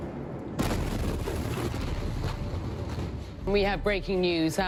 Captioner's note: explosion